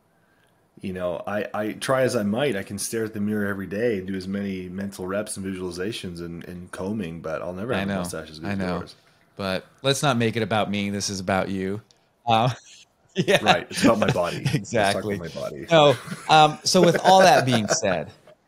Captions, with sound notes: You know, I try as I might, I can stare at the mirror every day, do as many mental reps and visualizations and combing, but I'll never have mustaches like you. - I know, I know, but let's not make it about me. This is about you. Yeah. (laughing) - Right, it's about my body. - Exactly. - It's all about my body. - So with all that being said,